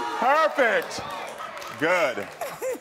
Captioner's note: audience applauding; laughs